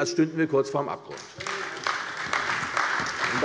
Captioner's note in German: Beifall bei der CDU und der FDP